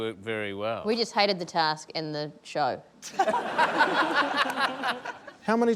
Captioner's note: laughter